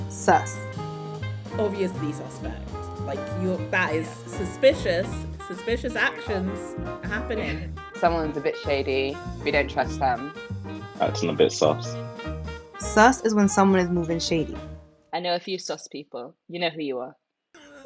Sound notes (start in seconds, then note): 0.3 voiceover; 12.9 voiceover